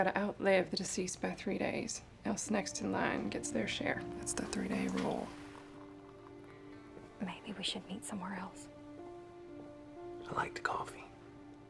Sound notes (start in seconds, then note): 7.8 whispering